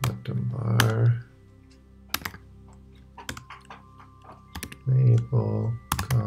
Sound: keyboard clicking

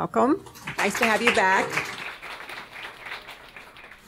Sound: audience applauding

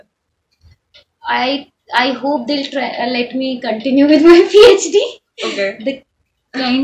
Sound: laughs

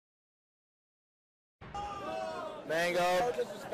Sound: crowd making noise

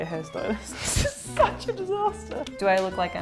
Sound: laughing

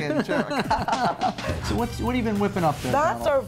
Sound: laughs

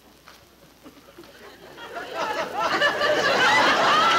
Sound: audience laughing

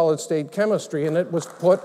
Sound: applause

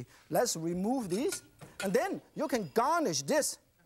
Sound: none

